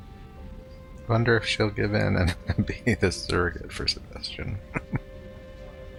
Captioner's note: chuckling